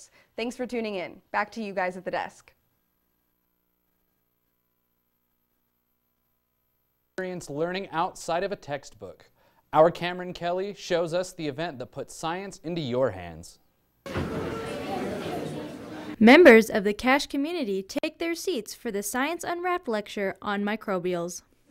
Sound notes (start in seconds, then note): 14.0 chatter